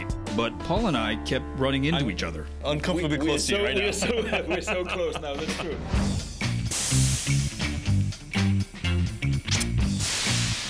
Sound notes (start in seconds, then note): 3.5 laughter; 5.8 upbeat music